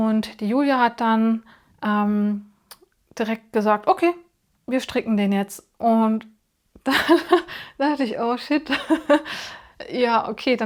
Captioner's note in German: gelächter